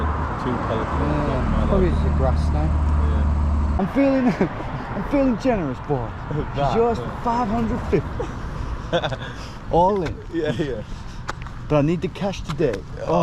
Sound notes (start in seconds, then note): 7.6 laughs